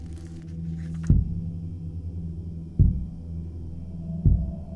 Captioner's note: thudding